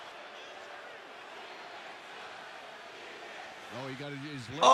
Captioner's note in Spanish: la multitud corea